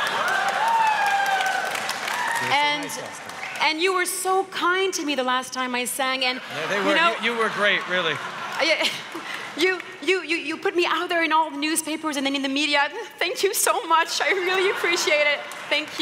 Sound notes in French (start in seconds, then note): 6.6 Rires